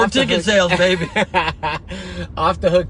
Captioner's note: laughs